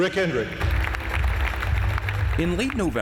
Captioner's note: applause